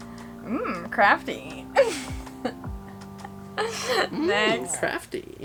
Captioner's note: laughs